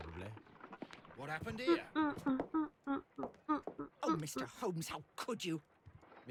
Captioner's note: humming